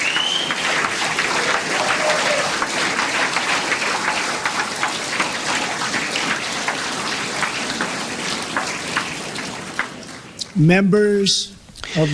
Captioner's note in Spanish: aplausos